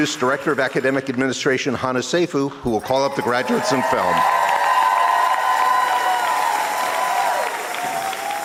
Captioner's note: applause and cheers